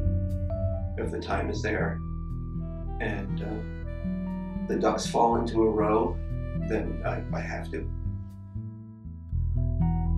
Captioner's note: voiceover